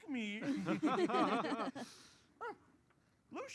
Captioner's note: laughter